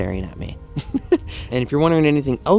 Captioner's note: chuckles